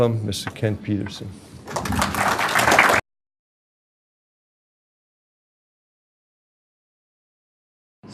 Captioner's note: silence